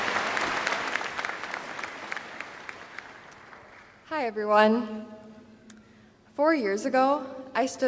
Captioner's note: applause